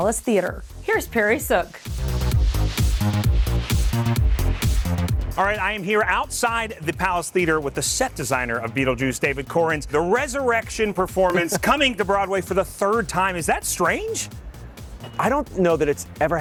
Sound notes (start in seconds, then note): 1.1 upbeat music; 11.2 laughing